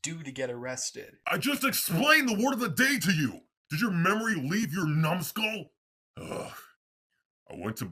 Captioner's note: sigh